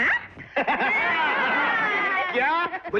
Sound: laughing

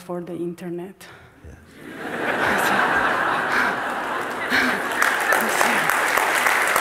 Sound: smijeh i pljeskanje

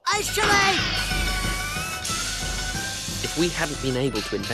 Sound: intense building noises

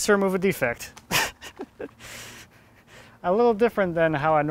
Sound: laughs softly

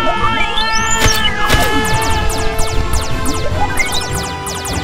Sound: laser sounds; synth scales intensifies

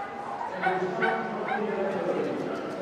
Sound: dog barking

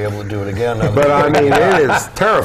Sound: laugh

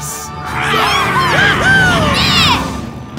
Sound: cheering

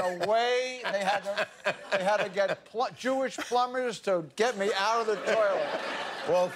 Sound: laughter

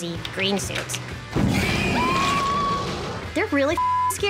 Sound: shrieks; woman screams

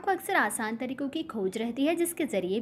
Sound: hindi

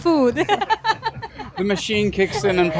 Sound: laughs

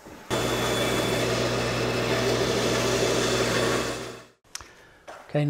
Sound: machine humming

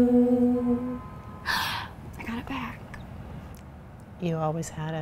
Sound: gasps

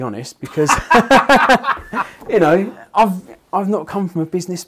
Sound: laughing

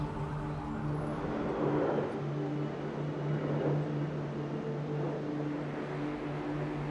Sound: airplane whooshing

